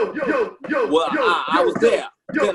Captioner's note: southern accent